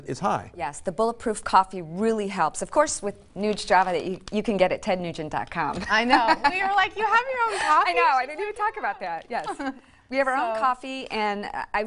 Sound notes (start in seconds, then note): 6.2 laughs